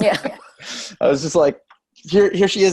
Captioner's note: laugh